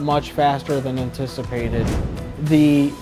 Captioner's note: note swooshes